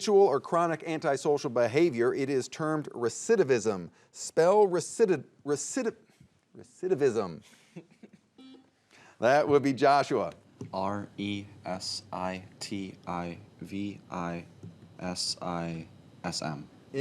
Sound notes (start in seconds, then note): 7.6 chuckling; 8.4 buzzer beeping